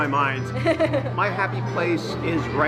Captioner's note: laughing